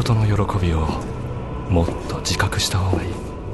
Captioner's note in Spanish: pasos